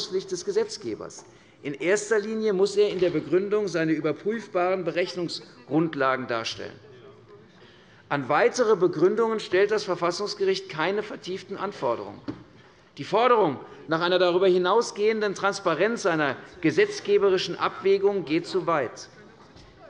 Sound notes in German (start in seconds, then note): none